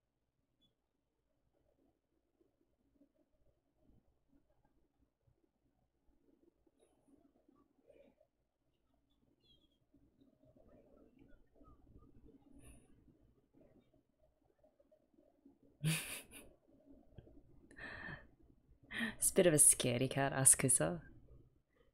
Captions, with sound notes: [chuckles] She's a bit of a scaredy cat, Asakusa.